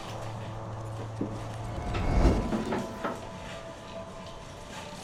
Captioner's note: backpack rustling; more distant shuffling